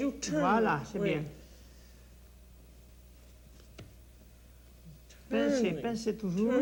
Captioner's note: speaks French